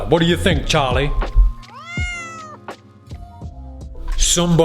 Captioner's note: crow squawks